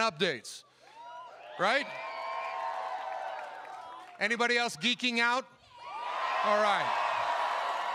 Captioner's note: cheering